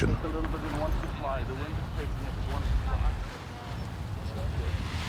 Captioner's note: paragliders chattering